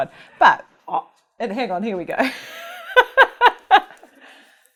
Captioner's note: laughs